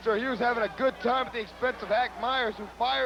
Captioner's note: crowd chatter